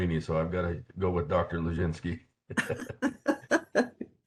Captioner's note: laughing